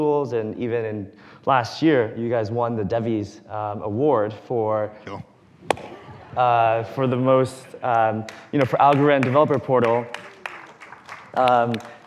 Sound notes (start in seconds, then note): 4.8 claps; 5.8 laughter; 8.2 clapping